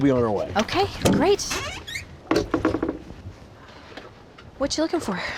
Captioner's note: creaking sound